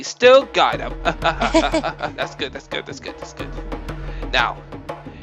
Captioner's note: laughing